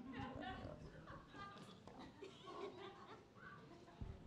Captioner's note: people laughing